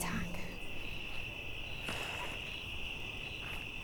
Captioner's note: crickets chirping